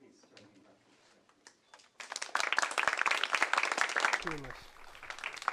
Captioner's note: applause